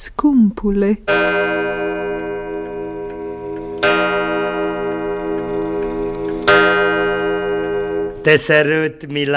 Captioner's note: sound of a pendulum